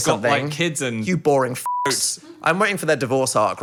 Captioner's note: beeping